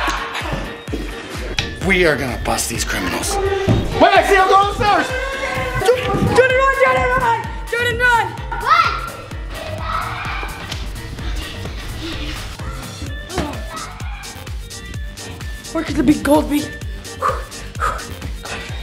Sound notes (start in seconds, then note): 8.6 yelling; 17.1 pants